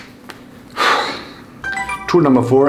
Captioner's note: exhales sharply